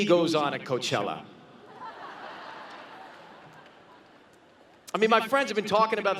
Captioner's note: laughter